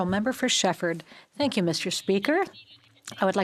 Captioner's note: speaking French